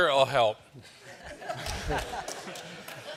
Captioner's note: laughter